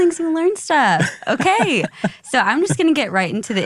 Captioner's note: laughs